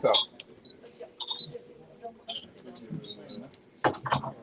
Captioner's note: machine beeping